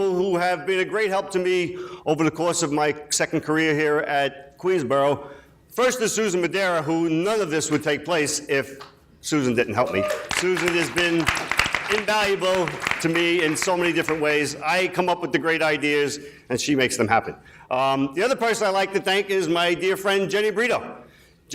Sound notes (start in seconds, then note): 9.9 people clapping